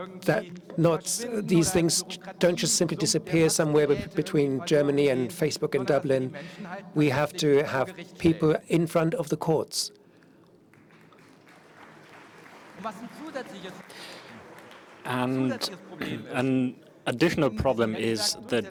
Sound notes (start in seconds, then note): 16.3 applause